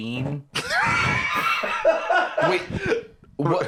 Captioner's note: laughs